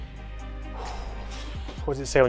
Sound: breathes out

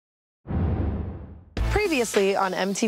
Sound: whooshing

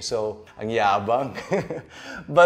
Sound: giggles

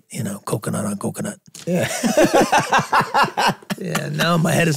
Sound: group laughing

